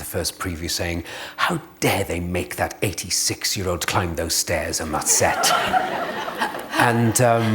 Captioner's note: laughter